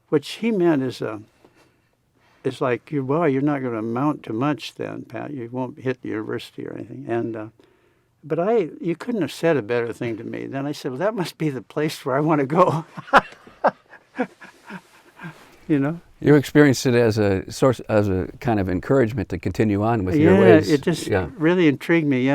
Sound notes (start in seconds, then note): 12.8 laughs